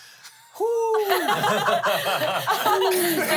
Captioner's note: everyone laughs